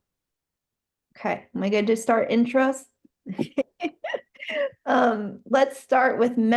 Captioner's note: laughs